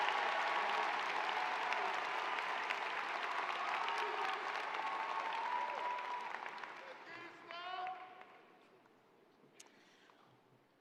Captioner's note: applause